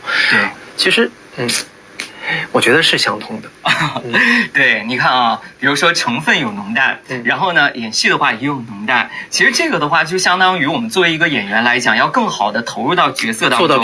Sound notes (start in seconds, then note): 3.6 laughs